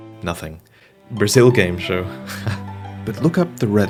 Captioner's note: laughter